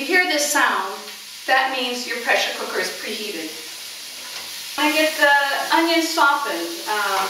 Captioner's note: sizzling